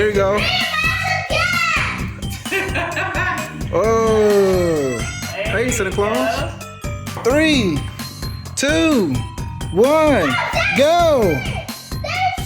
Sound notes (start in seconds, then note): 1.5 kids chattering indistinctly